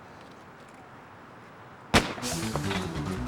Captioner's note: starter's pistol fires